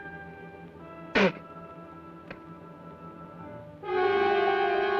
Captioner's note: spits; ominous orchestral music